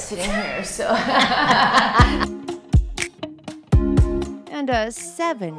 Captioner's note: women laughing